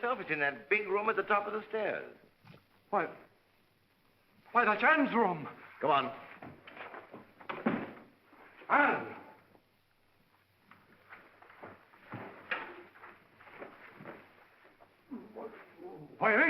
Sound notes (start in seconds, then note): 7.4 door bangs open